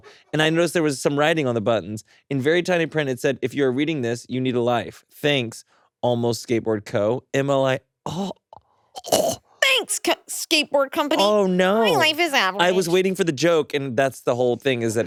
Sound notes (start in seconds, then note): 9.0 groans